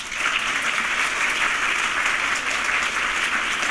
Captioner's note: applause